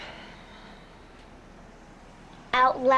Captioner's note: sighs